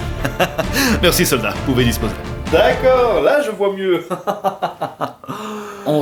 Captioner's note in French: rigole